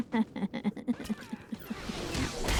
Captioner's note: laughter